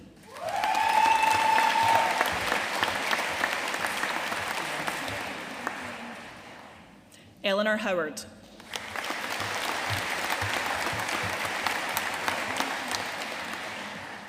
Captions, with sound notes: (AUDIENCE CHEERING AND APPLAUDING) Eleanor Howard. (AUDIENCE APPLAUDING)